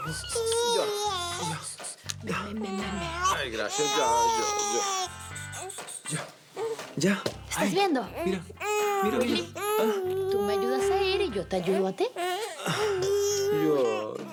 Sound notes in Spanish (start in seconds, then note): 3.6 Siguen llorando; 13.5 Lanto del bebé